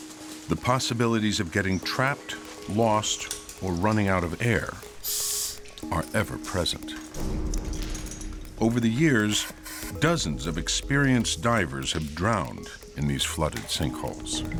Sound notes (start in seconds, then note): 5.0 compressed air hissing